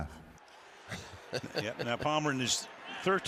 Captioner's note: laughs